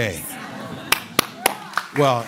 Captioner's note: applause